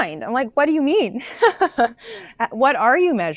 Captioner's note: laughs